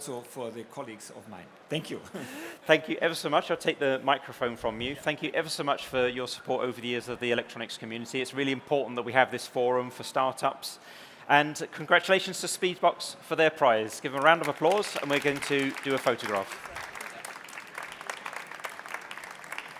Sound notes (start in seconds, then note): 13.9 applause